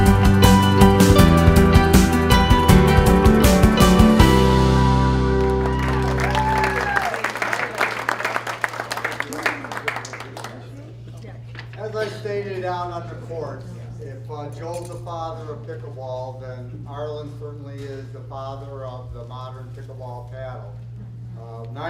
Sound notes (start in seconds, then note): 6.9 applause